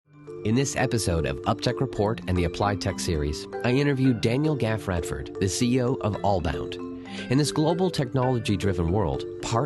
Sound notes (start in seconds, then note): 0.5 voiceover